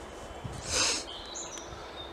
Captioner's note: manly sniff